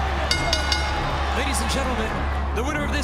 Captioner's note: bell ringing